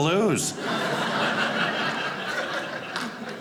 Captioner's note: audience laughing